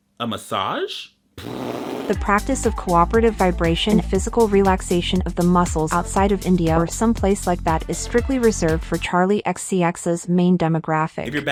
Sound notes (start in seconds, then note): 1.3 mimics fart noise